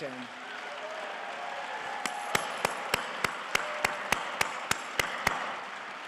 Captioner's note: and audience cheering and applauding